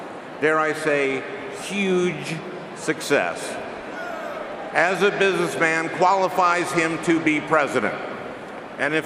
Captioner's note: laughing